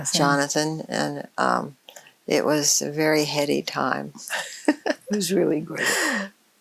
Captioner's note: laughs